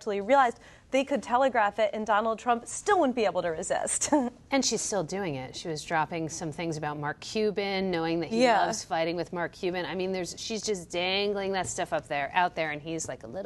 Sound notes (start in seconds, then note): 4.9 laughs